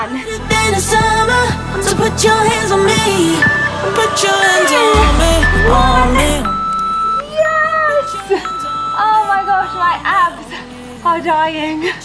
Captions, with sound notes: (beeping) Two, one. Yes. Oh my gosh, my abs are dying.